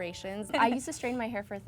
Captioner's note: laughs